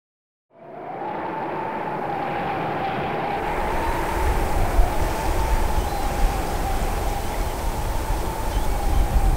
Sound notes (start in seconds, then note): 0.6 wind howling; 2.5 water crashing; 5.8 birds whistling